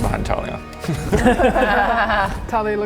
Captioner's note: laughs in coward